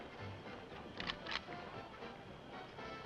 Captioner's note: music in distance; rifle charging; music in distance